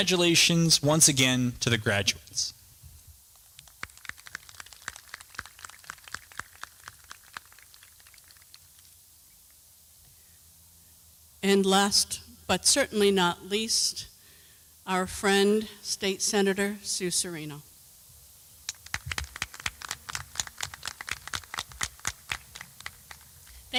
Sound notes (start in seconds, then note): 6.9 applause